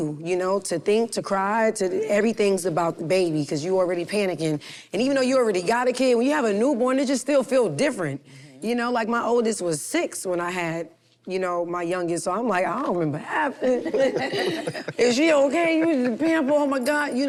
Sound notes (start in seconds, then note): 13.6 group laughs